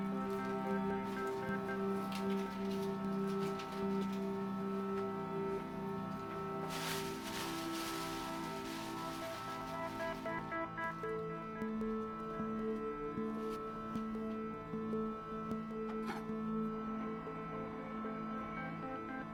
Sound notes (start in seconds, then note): 0.2 serene music continues; 6.6 bag rustling; 16.2 knife scratching